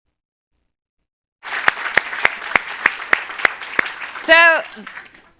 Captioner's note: applause